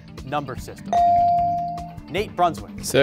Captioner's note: bell rings